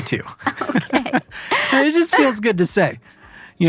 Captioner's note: laughs